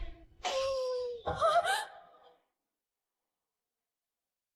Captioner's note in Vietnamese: tiếng cười